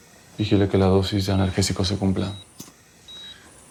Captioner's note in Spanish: Suena un celular